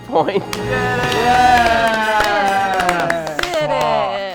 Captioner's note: cheering and clapping